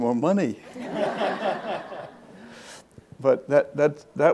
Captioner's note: audience laughs